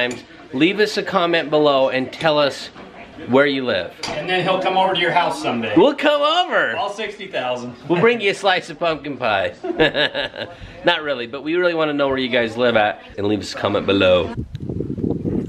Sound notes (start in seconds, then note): 9.6 laughing